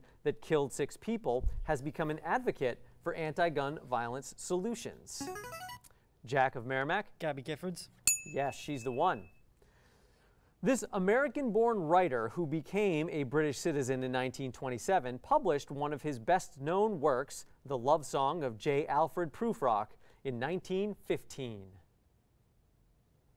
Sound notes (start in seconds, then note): 5.3 player buzzer; 8.0 ding